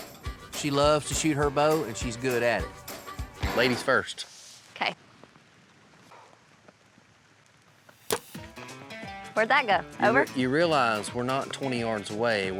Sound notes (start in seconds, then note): 8.0 arrow shot